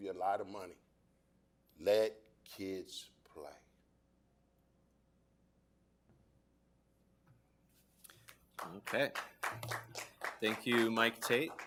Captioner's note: applause